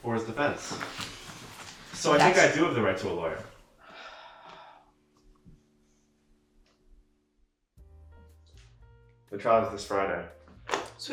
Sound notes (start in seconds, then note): 3.7 garfield sighs